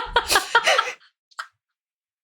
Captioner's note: laughing